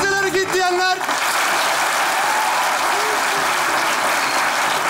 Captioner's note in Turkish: Alkış sesleri